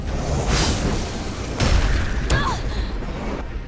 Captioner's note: explosion; Santra groans